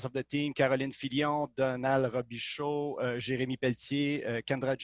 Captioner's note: speaking in foreign language